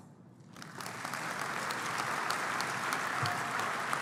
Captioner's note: applause